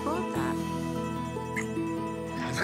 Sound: kisses

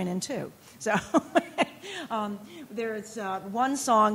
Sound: laughing

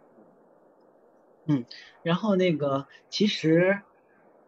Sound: Mandarin

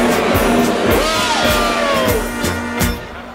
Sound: cheering

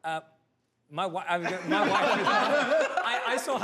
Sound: all laugh

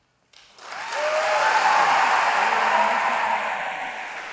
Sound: crowd cheering

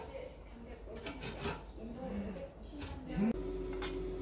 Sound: the sound of air fryer operating may be a little noisy

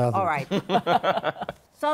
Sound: laughter

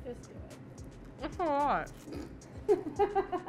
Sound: laughing

